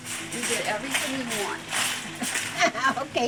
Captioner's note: laughs